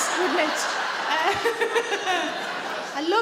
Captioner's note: sarah chuckles